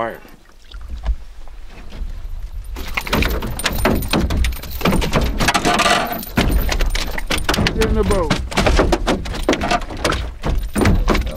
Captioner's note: clunks